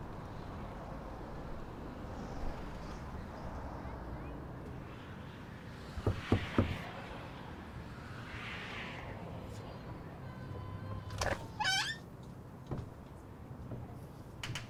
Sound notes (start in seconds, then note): 6.0 knocking on door; 11.1 door creaks